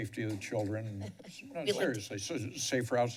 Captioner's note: laughs